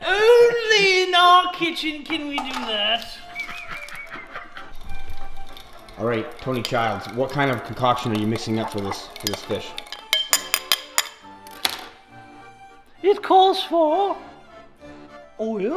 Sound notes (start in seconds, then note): 2.8 laughs; 10.0 knife tings on bowl